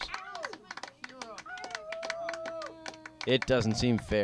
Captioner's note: cheering audience